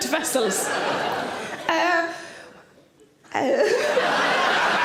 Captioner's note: audience laughs